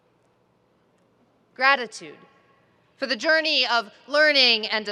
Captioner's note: none